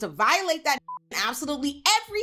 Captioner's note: beep